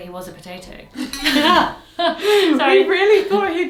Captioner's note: both laughing